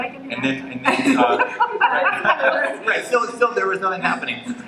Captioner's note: laughter